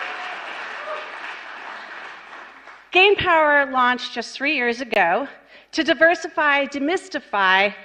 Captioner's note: applause